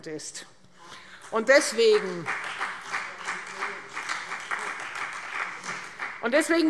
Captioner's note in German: Beifall